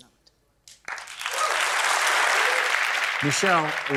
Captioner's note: applause